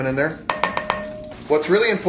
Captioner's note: spoon bangs